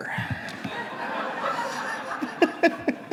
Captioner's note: audience members laugh; laughs